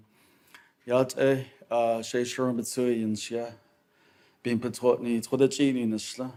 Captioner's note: speaks Diné